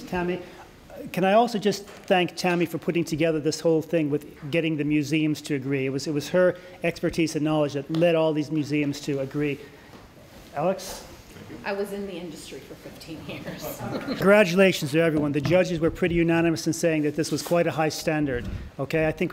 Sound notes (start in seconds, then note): 13.6 laughter